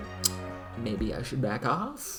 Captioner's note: lip smack